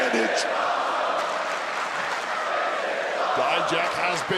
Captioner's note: crowd chants "this is awesome"